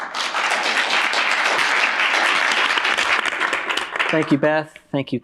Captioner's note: applause